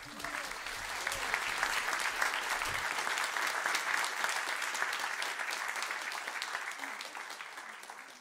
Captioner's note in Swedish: applåder